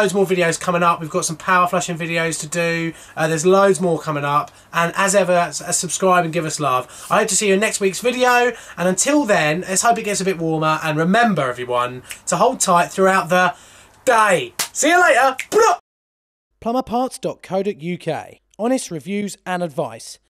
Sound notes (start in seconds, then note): 14.6 claps; 14.6 snaps